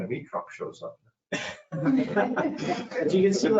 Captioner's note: all laughing